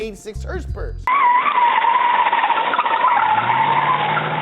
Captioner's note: tire screeching